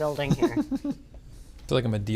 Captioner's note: laughs